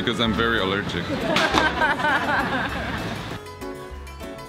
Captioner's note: mild laughter